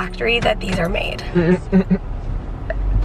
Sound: chuckles

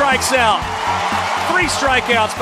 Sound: crowd cheering

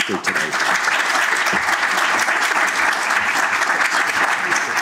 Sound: applause

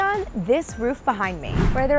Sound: air whooshing

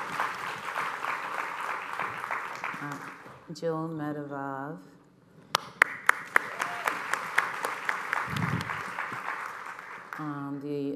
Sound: applause

